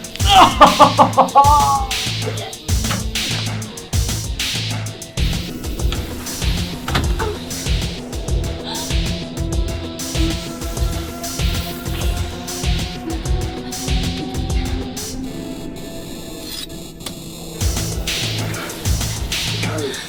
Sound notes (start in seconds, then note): 0.2 grunting and laughing; 16.4 knife scraping; 19.8 tense music